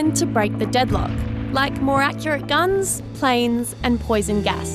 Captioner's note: canon blasts